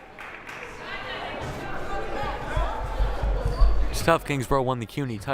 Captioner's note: crowd murmuring